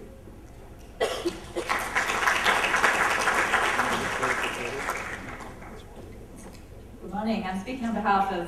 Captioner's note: applause